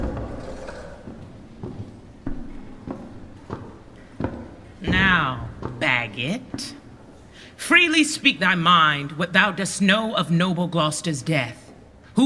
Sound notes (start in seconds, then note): 0.0 footsteps approaching